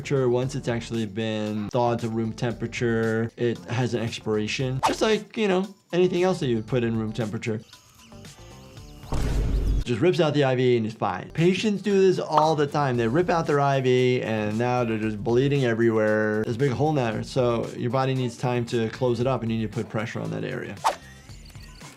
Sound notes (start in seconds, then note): 9.1 sound effect booming